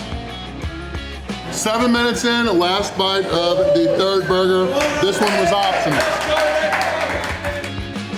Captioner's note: crowd cheering